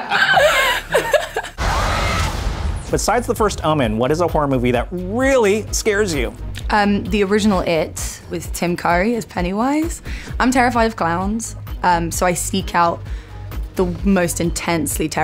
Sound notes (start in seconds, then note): 1.6 screams